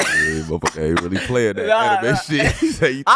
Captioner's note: laughing